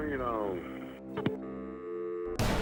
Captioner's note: dial tone